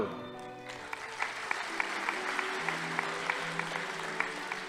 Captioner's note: audience applauding